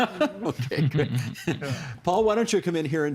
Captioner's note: laughing; chuckling